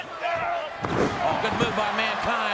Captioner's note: body thuds